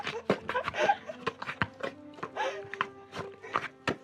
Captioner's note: chuckling